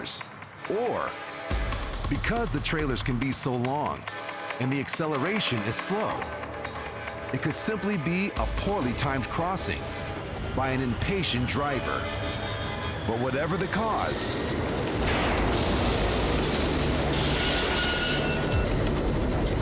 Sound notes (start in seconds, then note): 14.5 loud crash, screeching